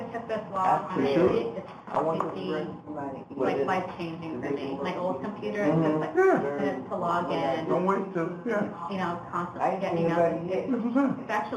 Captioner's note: background chatter